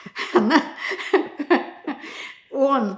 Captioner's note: laughing